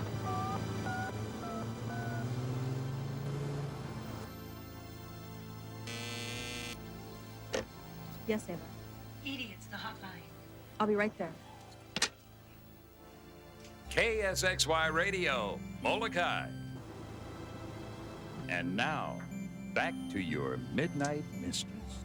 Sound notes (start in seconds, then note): 0.8 cellphone dial beeping; 5.8 phone buzzing; 14.0 radio Announcer